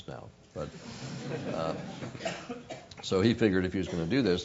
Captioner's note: laugh